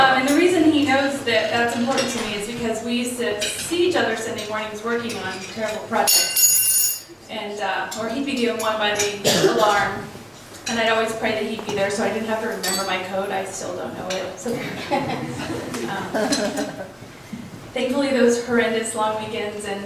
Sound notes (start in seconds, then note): 5.0 silverware clatters; 14.5 laughs